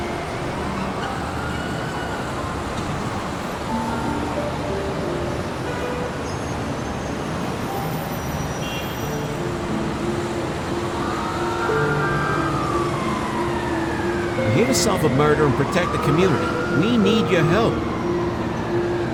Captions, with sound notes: (horn honking) (siren blaring) - I'm here to solve a murder and protect the community. We need your help.